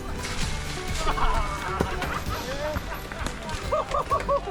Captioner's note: laughter